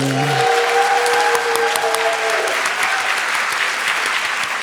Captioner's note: audience applauds